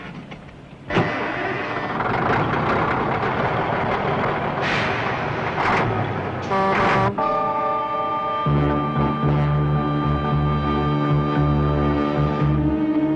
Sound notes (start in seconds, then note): 0.8 engine sputters and starts; 6.5 horn blaring; 7.3 suspenseful music